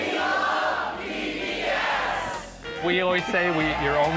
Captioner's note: cheering